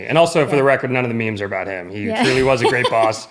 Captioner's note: laughter